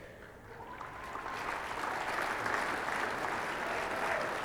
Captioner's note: audience applauding